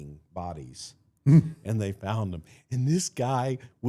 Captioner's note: Mark chuckles